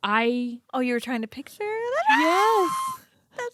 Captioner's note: screams